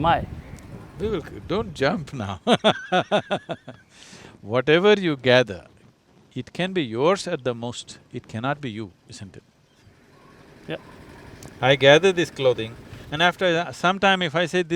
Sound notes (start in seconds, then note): 2.5 laughs